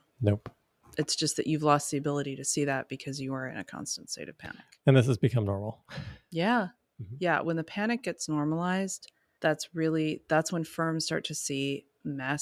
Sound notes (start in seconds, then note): 5.9 chuckles